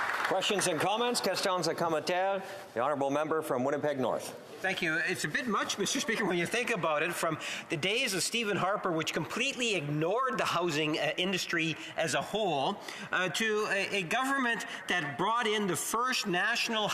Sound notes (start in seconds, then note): 5.1 some Applause; 7.6 speaking French